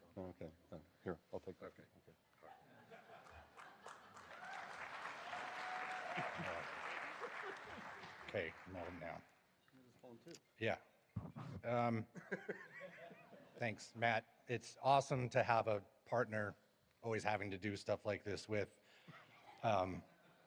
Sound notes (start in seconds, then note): 3.5 applause, cheers; 9.5 chatter